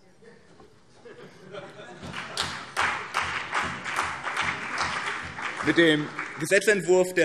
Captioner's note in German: Heiterkeit